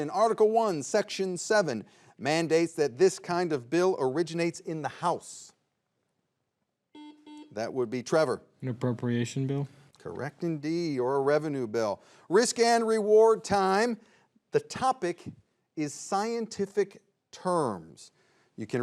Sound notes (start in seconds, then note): 6.9 buzzer beeps